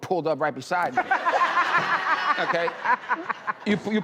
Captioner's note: laughing